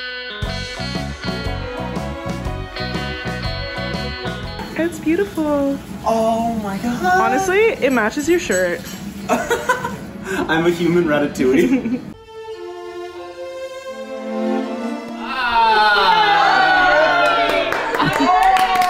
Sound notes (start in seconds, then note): 9.3 laughing; 12.4 calm piano music; 15.2 cheering